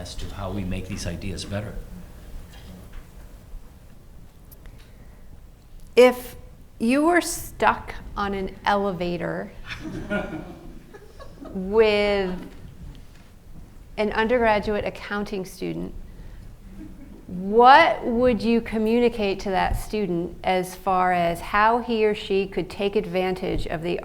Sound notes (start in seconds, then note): 9.6 laughs